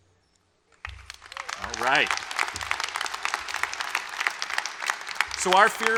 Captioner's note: applause